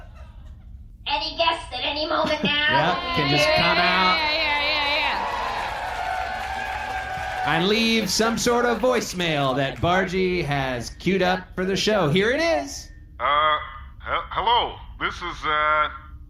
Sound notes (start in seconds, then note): 6.4 audience applauds